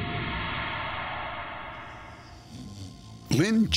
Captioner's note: snoring